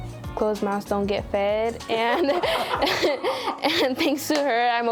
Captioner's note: laughter